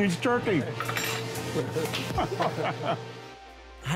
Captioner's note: laughs